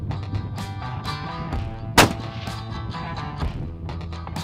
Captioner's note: gun Shot